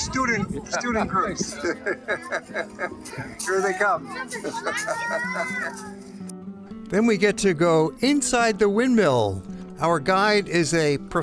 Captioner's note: laughter